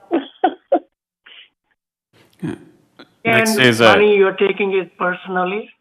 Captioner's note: laughing